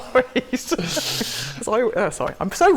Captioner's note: laughter